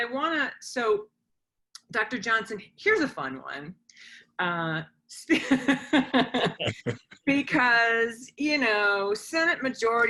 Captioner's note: laughs